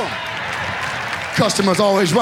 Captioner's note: audience applauds